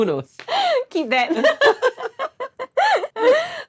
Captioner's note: both laugh